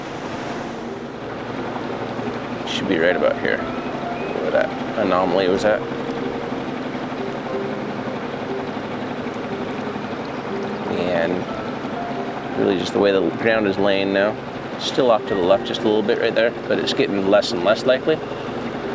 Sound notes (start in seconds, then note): 6.2 engine rumbling; 6.2 somber music